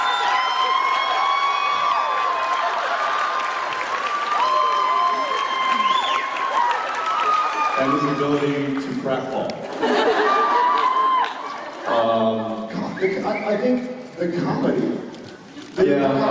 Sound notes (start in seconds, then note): 0.0 uproarous applause; 2.6 applause continues